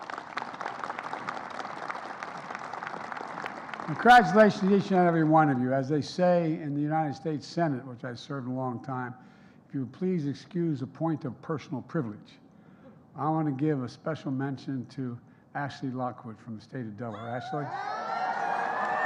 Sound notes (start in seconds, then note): 6.2 applause